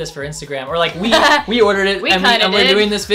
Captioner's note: laughs